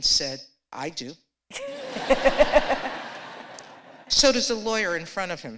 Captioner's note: laughter